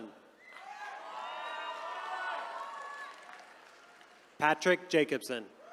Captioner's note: attendees cheering